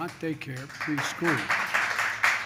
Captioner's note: applause